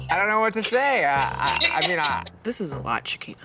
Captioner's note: laughing